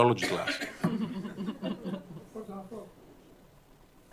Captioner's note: laughter